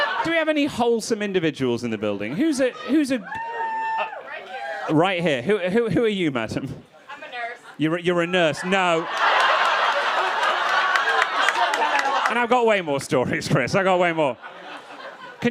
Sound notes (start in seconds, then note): 0.0 crowd laughing; 3.3 person screams; 8.3 crowd laughing and clapping